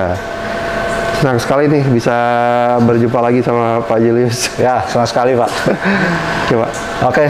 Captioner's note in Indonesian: tertawa kecil